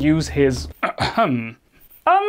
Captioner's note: ahem